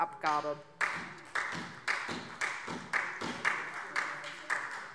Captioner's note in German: Beifall SPD